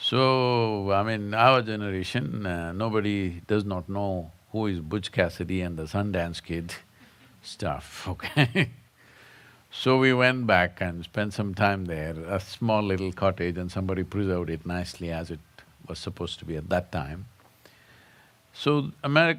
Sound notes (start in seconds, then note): 8.7 laughs